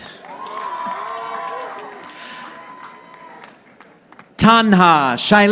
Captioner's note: audience applauding